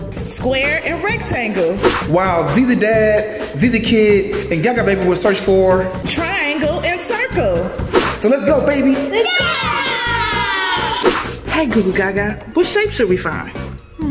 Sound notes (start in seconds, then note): 9.1 family cheering